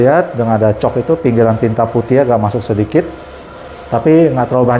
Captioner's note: printer machine noise